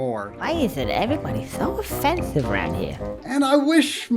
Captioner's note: game audio